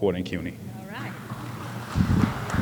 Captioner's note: applause